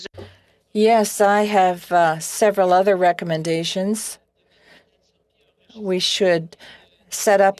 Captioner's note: speaking French